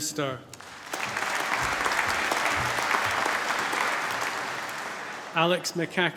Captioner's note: applause